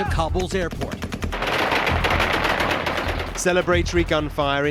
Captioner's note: gunfire blasting